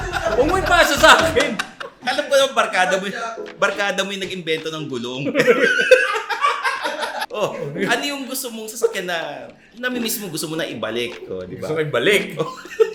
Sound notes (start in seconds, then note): 5.2 boys laughing